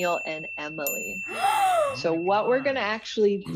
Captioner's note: gasping